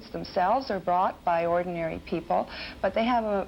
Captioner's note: none